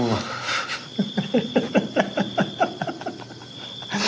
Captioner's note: both men laughs